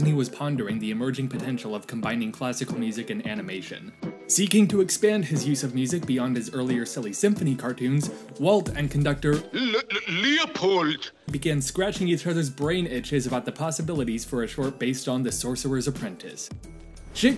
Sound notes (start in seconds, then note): 8.1 gasp